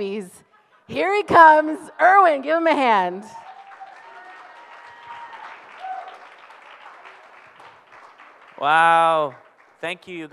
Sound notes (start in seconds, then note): 3.0 audience applauds